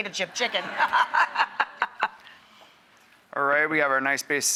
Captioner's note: Rachael and audience laughing